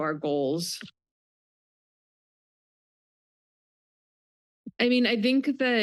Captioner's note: pause